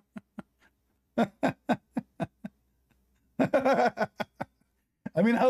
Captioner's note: Ketawa